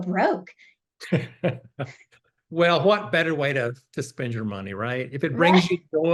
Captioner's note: laughs